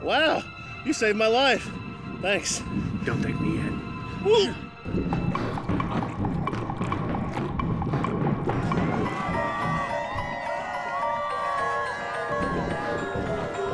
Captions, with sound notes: - Well, you saved my life. Thanks. - Don't thank me yet. (squelching) (people screaming)